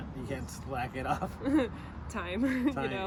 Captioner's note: regret laugh; nervous laugh :D